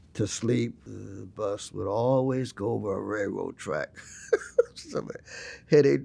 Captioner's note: laughs